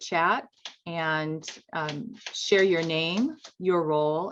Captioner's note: keyboard clanking